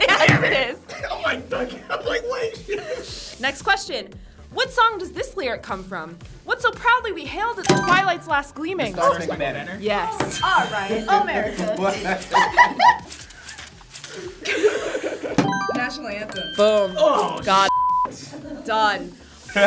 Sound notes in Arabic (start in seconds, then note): 7.6 قرعات الجرس; 11.3 تضحك; 15.4 قرع الجرس; 17.2 صفارة